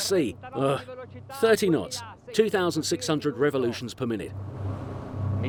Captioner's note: groans